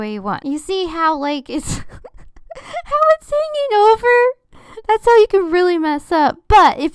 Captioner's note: laughing